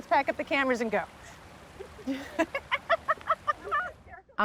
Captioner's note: laughs